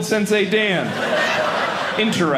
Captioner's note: audience laughing